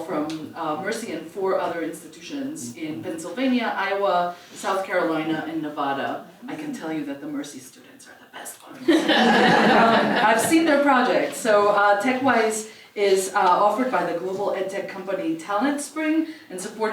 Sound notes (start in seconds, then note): 8.8 laugh